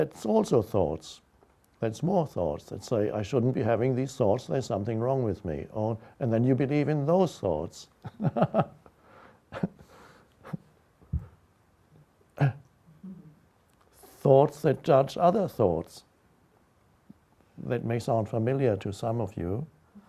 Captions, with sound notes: The thoughts are thoughts? That's more thoughts, that say: I shouldn't be having these thoughts, there's something wrong with me. And then you believe in those thoughts. (laughs) Thoughts that judge other thoughts. That may sound familiar to some of you.